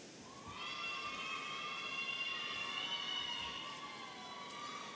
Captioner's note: audience cheering